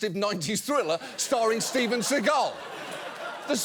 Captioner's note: audience laughs